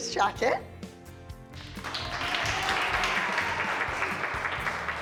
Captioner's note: applause, cheering